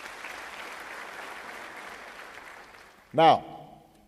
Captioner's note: applause